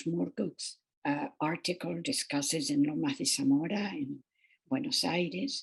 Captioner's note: speaking foreign language